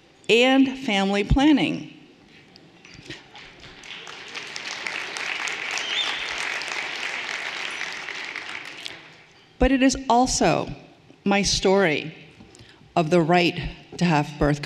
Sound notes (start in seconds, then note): 3.1 everyone applauding